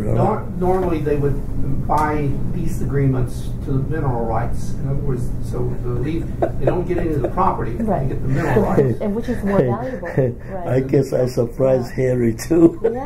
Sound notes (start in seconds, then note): 6.0 laughs; 12.4 laughs